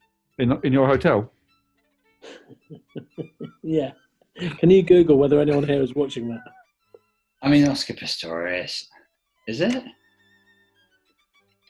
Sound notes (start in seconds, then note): 2.2 chuckling